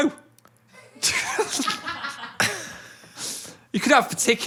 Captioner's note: all laugh